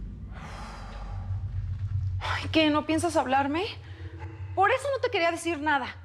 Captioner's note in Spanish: él exhala